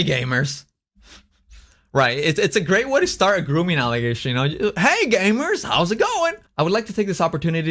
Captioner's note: laughs